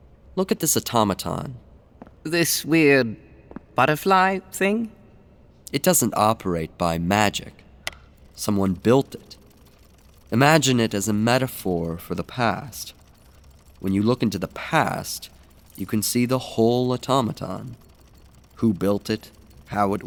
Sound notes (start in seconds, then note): 9.9 gentle mechanical sounds